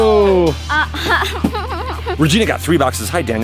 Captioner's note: giggles